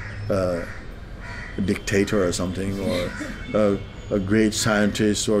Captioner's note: soft laughter